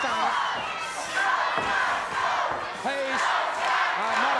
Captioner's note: audience chanting